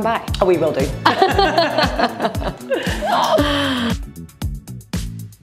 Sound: laugh; upbeat music

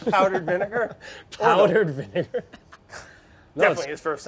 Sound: laughs

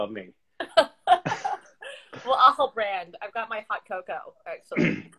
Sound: laughs

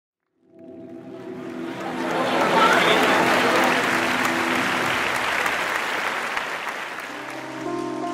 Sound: drone sound, musical chord; applause

